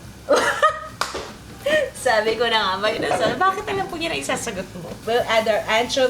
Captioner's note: laughs